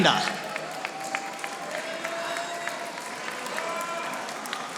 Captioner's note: audience applauding